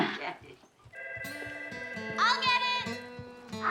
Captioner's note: telephone rings